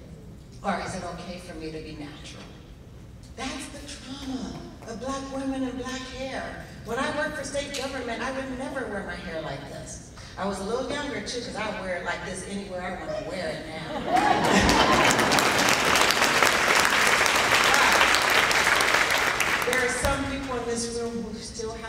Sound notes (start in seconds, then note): 14.2 applauding